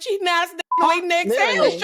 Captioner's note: beep